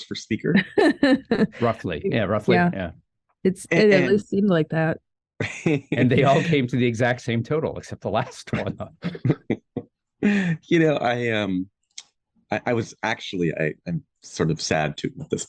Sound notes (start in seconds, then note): 0.5 laughing; 5.4 chuckling; 8.1 all chuckling